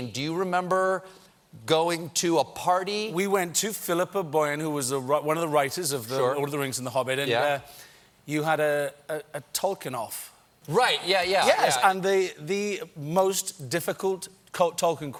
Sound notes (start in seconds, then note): none